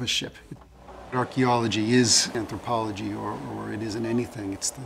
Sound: mechanical noises and voices in background

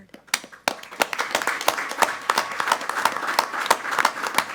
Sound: applauding loudly

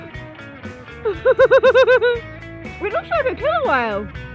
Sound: laughing

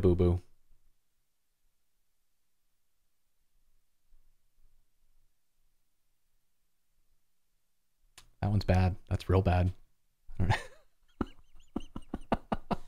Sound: laughter

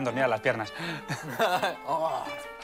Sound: laugh

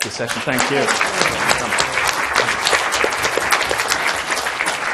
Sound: applause

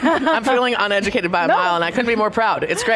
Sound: all laughs

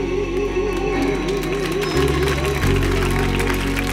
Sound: cheers and applause

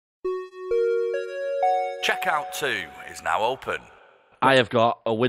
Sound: chime

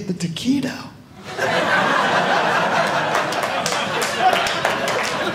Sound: audience laughing

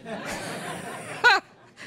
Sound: laughter

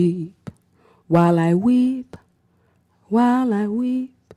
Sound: none

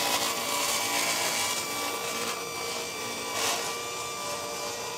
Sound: drill drilling

